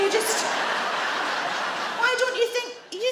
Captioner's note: audience laugh